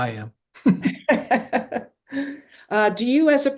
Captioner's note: chuckles; laughing